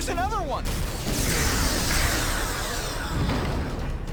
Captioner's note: explosion